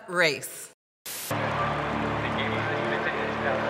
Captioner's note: crowd cheering